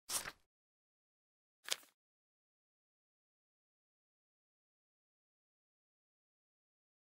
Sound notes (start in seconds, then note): 0.1 paper unfolds; 1.6 paper folds